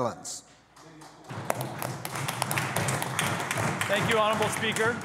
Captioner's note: clapping